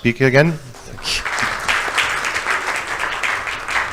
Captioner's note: light audience applause